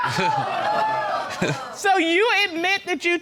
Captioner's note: audience exclaims